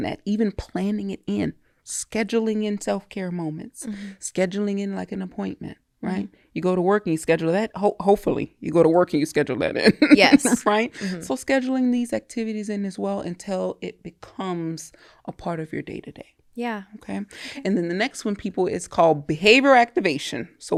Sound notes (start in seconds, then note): 9.9 laughs